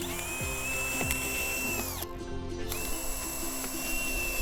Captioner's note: drilling